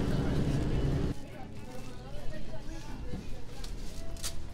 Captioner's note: distant chatter